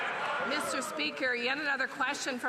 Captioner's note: some Applause